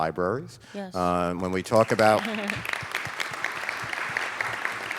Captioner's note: applause